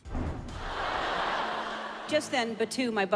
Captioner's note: audience laughing